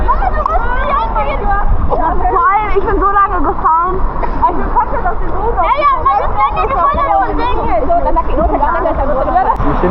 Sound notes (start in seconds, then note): 2.1 speaking German